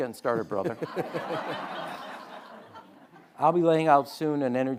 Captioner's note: audience laughing